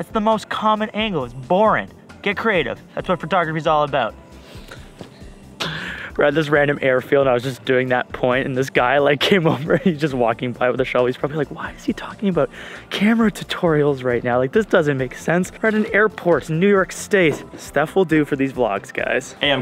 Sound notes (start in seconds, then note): 9.3 laughs